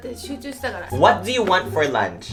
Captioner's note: mother speaking Japanese